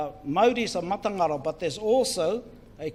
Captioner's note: speaks in foreign language